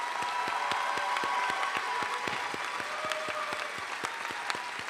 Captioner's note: applause